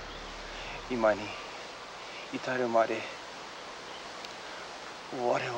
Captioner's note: speaking foreign language